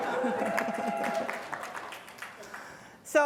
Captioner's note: applause; laughter